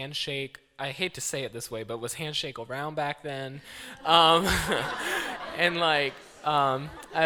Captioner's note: laughter